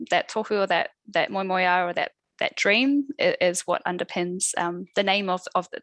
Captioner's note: non-english speech